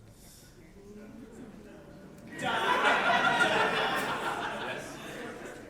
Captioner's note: audience oooh